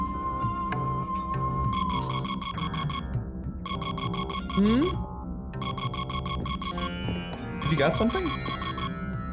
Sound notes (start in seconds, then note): 1.3 alert warning